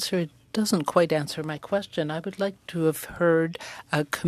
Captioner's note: speaking French